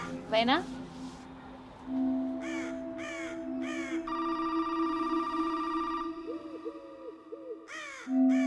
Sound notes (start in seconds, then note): 2.4 birds squawking; 3.9 phone rings